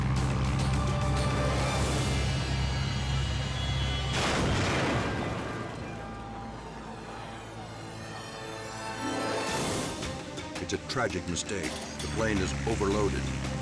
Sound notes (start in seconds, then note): 0.2 dramatic music; 4.0 plane clashes; 5.9 dramatic music